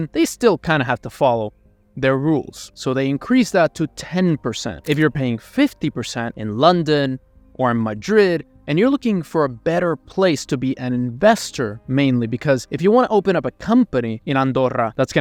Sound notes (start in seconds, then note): 4.8 camera clicking